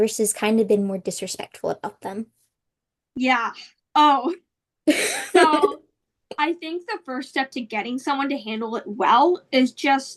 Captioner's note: laughs